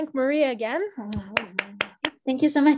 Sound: applause

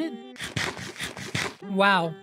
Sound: Minecraft Eating Noise

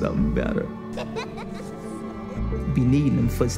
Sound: child laughing

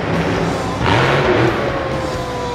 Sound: truck engine revs

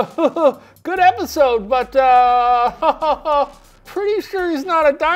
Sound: chuckles; chuckles

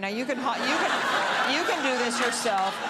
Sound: crowd laughing

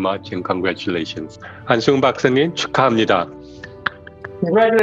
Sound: speaking in foreign language

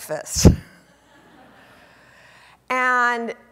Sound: audience laughing

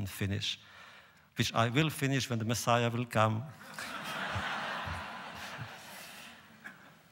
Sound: laughter

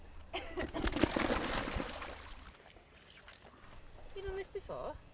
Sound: splashing

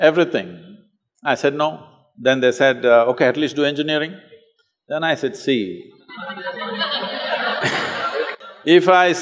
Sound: laughter

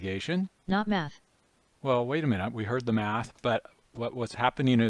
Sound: synthesized speech

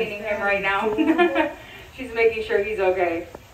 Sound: chuckling

